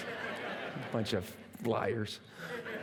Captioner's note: laughter